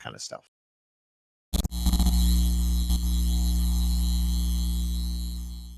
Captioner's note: electronic buzzing